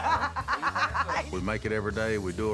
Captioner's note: laughs